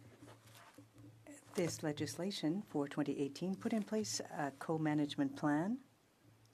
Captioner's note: speaking french